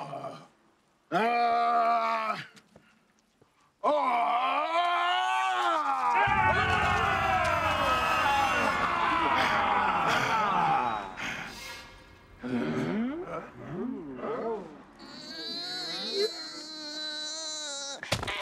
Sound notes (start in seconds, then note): 6.0 all cheering; 12.9 questioning grunts; 14.4 straining